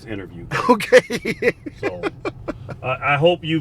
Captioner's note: laughs